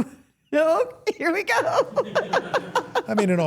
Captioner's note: everyone laughs